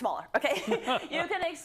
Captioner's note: laugh